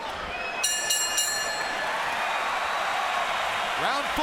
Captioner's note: bell rings